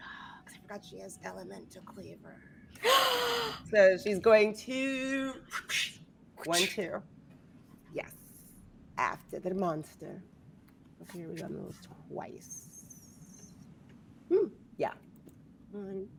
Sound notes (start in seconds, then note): 2.8 gasps; 5.5 mimics whooshing